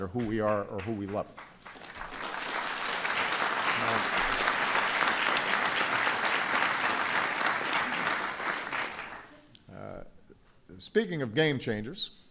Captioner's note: applause